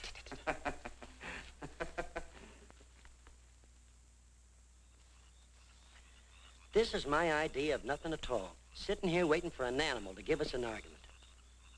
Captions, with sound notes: (crickets chirring) - This is my idea of nothin' at all. Sitting here waiting for an animal to give us an argument.